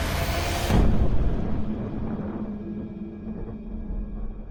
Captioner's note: loud blasting